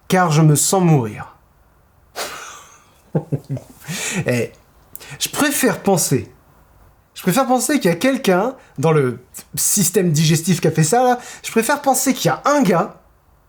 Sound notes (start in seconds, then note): 3.1 ironical laughter